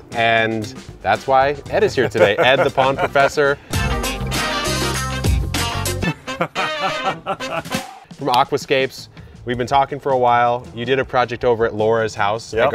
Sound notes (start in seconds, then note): 2.1 chuckling; 3.7 laughing; 3.7 upbeat music